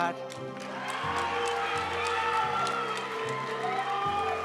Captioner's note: audience cheering and applauding; graduation music